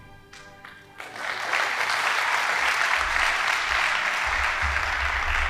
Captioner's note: audience applauding